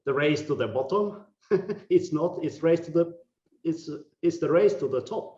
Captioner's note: laughing